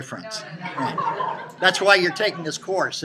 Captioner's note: students laughing